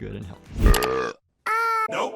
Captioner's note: burp sound effect